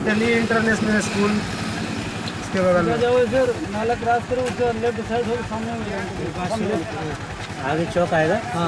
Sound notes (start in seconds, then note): 2.8 in foreign language